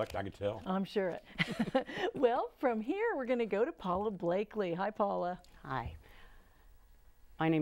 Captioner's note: laughing